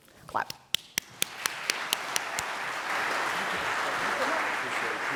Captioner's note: audience applauding